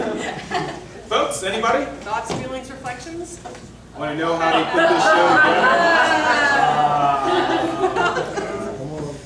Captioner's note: laughter